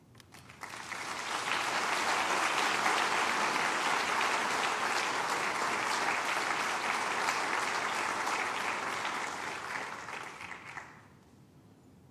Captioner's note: applause